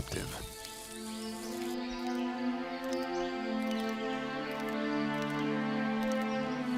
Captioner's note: birds chirping; light music